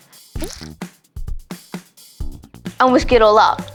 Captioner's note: pouring and mixing